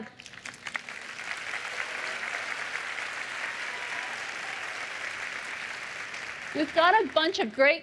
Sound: applause

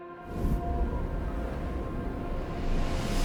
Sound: wind howling

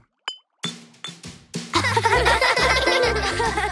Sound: laughing

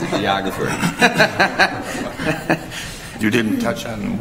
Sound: laughter

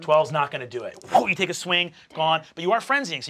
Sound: whooshes

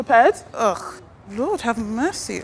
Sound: scoffs

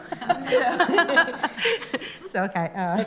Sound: laughter

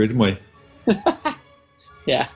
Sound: laughs

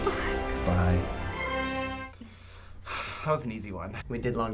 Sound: sighs

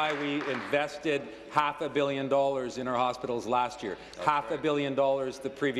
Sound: applause

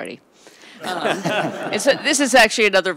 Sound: audience laughs

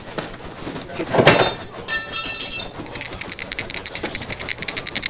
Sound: metal clanking

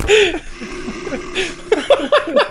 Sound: growling; laughs

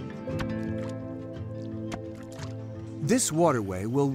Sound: mud squelching

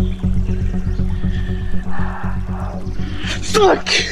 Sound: heavy breathing

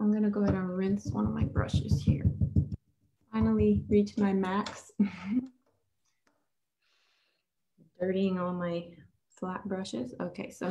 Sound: chuckles

